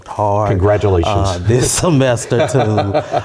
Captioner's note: laugh